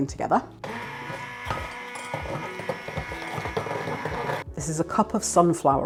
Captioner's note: blender whirring